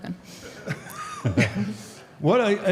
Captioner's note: audience laughs